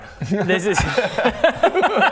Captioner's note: laughs